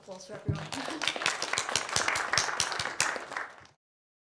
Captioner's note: applause